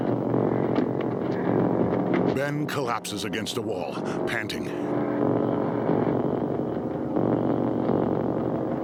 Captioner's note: panting